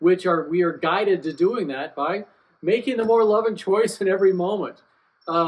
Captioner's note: laughs